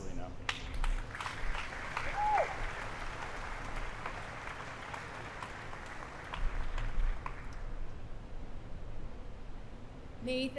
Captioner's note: applause